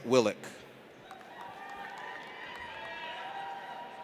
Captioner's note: audience cheers